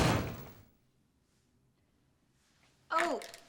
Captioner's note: door slams